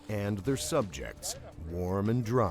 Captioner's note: voiceover